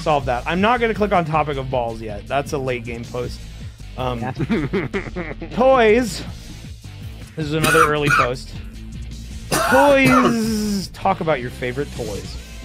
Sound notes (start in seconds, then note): 4.3 laughs